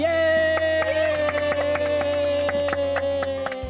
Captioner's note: cheering